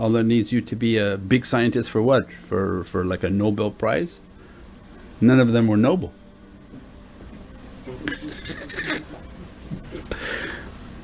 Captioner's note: laughs